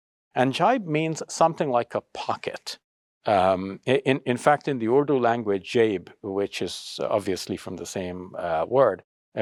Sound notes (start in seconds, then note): 0.0 speaks Arabic; 5.5 speaks Urdu